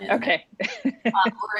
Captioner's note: chuckles